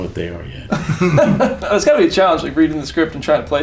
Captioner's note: laughs